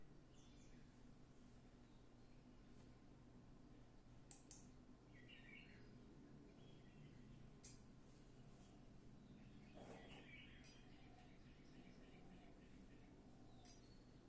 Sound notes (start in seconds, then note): 5.1 early bird singing; 9.1 birds singing